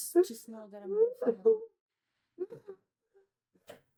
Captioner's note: crying